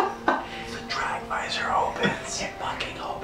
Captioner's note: whispers